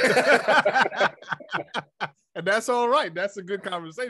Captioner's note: laughing